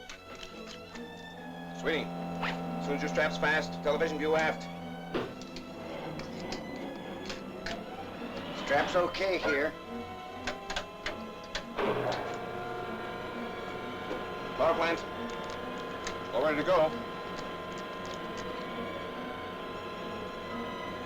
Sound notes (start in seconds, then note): 6.2 soft suspenseful music; 9.9 engine powers up; 11.0 mechanical sounds; 11.0 soft suspenseful music; 18.1 soft suspenseful music